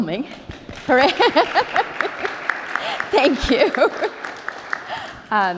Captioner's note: applause